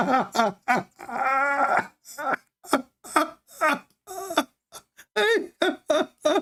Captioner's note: Ketawa